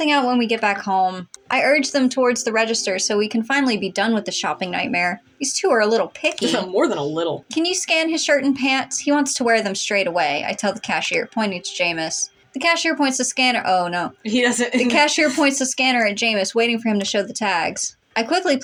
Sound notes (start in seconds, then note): 6.4 scoff; 14.4 laugh